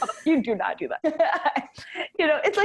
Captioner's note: laughing